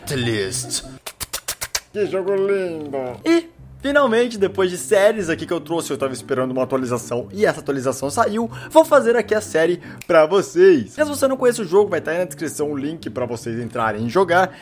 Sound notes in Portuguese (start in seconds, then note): 0.0 barulhos com a boca